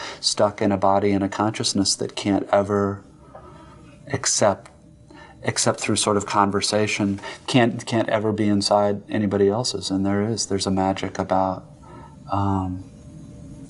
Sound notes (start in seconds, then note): 0.0 breathes in; 7.2 quicker breath in; 11.7 exhale